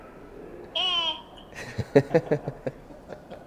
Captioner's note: Mike Matheson laughs